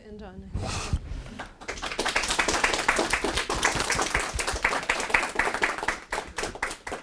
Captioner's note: applause